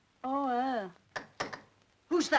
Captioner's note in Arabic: طرق الباب